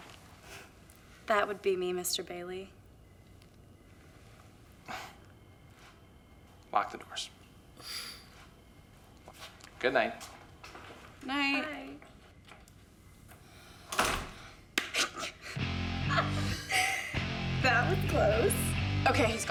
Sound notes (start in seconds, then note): 5.2 scoffs; 16.0 snickering